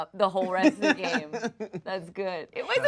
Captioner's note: laughs